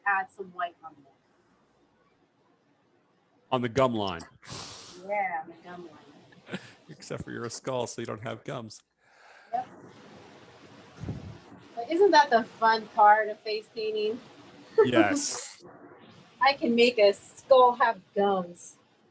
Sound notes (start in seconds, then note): 6.4 chuckles